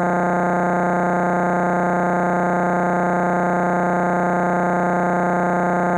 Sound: electronic buzzing continues

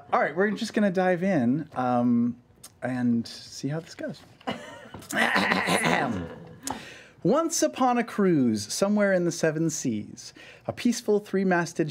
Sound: clears throat

